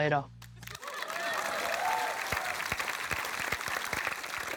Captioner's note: applause